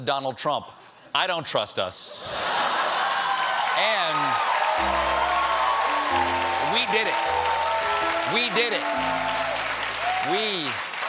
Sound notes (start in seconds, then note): 2.2 laughter; 2.8 applause